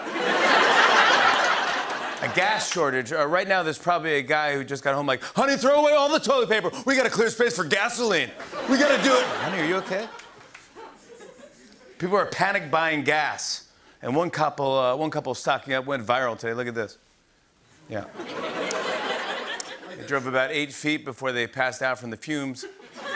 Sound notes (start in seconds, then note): 0.0 laughter; 10.6 laughter; 18.1 laughter; 22.6 laughter